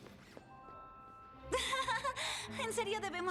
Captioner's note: nervous laughter